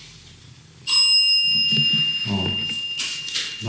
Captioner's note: the bell rang